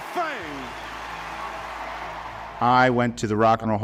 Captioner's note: crowd cheering